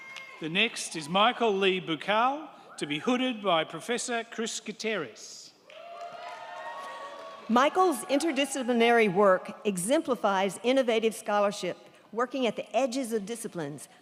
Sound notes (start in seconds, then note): 5.6 crowd cheering